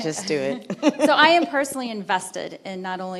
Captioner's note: chuckles